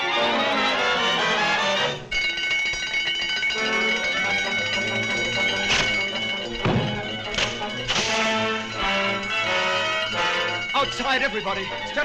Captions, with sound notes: (alarm rings) (dramatic music) - Outside, everybody.